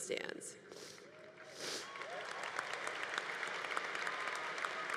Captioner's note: congregation applauding